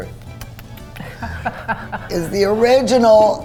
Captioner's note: laughing